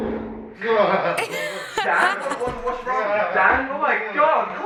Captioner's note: laughs